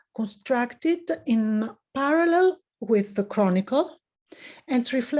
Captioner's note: none